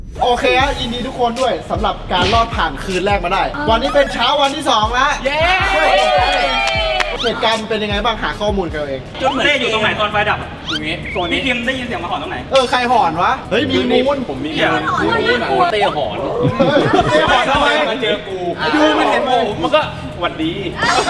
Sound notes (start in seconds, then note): 6.6 applauding; 15.8 chuckles